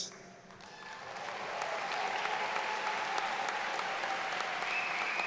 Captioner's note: audience claps